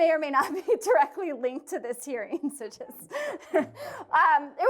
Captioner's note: laughter